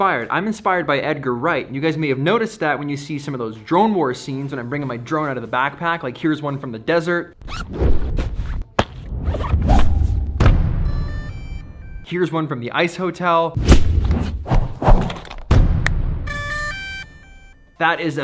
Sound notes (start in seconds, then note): 10.7 drone beeping; 15.9 snaps; 16.2 drone beeping